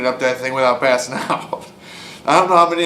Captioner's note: chuckles